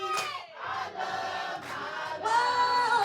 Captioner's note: crowd cheers